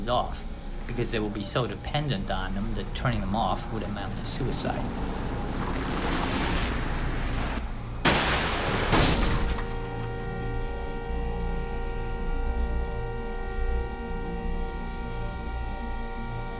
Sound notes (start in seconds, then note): 8.0 loud thud, horn honking